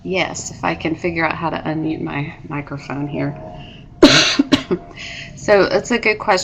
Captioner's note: coughs